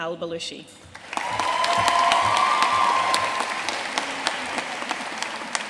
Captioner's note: audience cheering and applauding